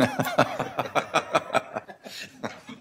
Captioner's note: laughter